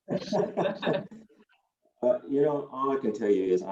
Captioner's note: laughing